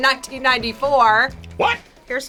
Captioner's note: none